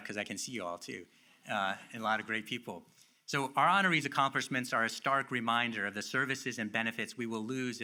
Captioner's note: none